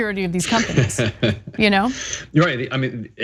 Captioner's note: laugh